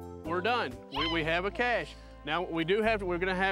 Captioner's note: student squeals